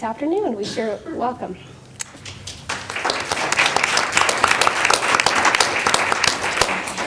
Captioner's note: applause